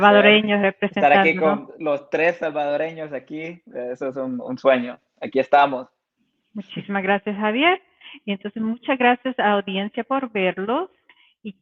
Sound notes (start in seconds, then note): 0.3 speaking in Spanish; 6.8 speaking in Spanish